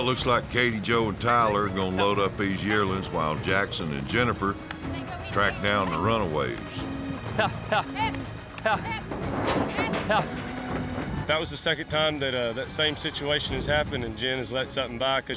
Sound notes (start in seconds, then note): 8.1 both wrangling